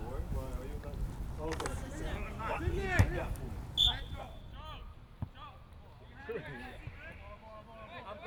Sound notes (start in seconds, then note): 3.7 whistle